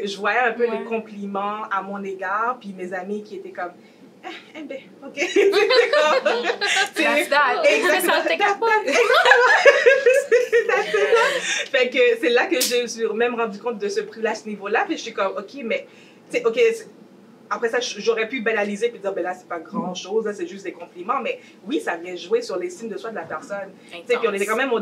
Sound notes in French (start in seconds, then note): 5.2 rires